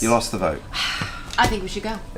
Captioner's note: sighs